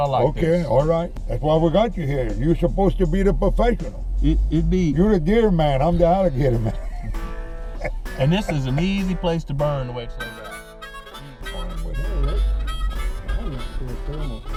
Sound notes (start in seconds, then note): 6.3 chuckling